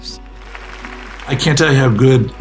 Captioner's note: audience applauds